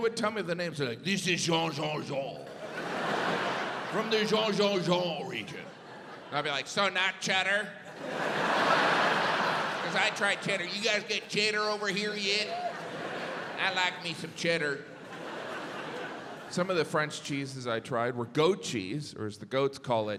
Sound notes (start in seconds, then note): 3.3 imitating French